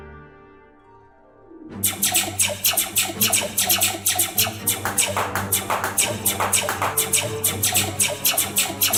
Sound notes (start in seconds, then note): 1.8 blaster sound effects; 4.5 blaster and gun sound effects; 7.4 blaster sound effects